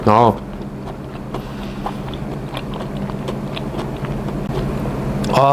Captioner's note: chewing noise